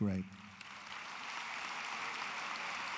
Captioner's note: applause